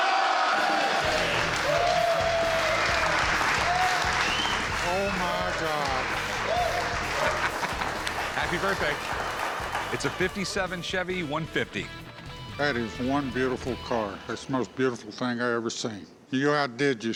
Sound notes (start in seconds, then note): 1.6 cheers and applause